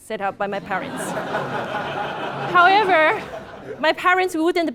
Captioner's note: laugh